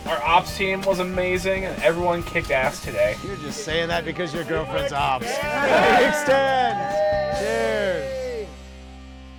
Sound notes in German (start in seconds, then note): 5.5 alle lachen